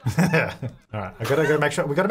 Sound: laughing

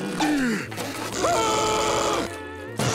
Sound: screaming

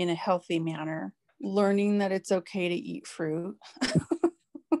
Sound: laughs

